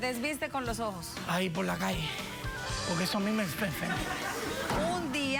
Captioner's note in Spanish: risas